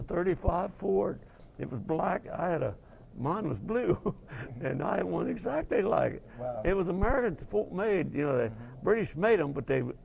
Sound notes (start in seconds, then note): 3.8 laugh